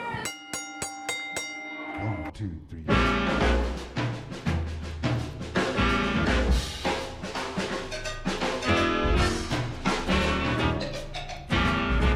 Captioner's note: bellringing